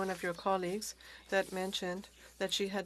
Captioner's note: speaking French